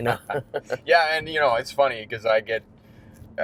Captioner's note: laughter